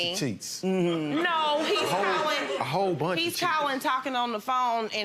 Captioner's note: audience laughs